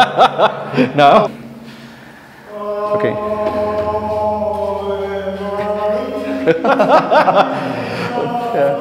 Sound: laughter as begins in the background

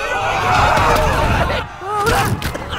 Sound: thud; impact noise

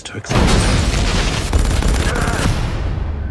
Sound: gunshots; loud commotion

